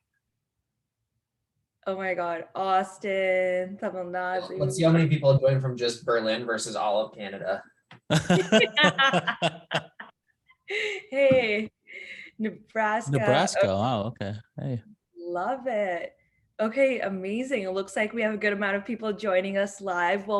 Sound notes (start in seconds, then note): 8.1 hosts laughing